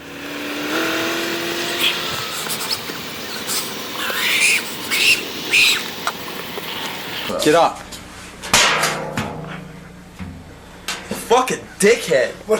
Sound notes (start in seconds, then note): 0.2 wind and Bam screaming sped up; 8.5 clang